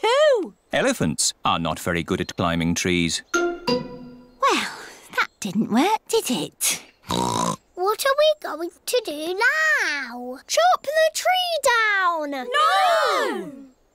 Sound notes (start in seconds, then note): 7.1 oinks